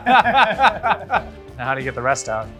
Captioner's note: boisterous laughter